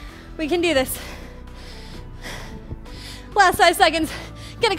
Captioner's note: breathes heavily